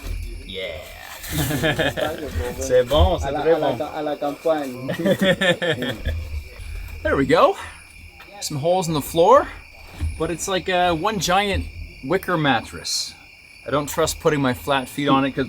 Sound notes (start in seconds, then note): 1.2 chuckles; 2.7 speaking French